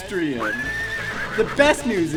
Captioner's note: horse neighing